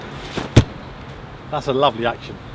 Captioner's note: umbrella thumps